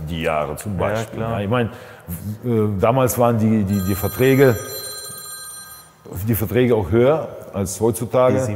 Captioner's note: phone rings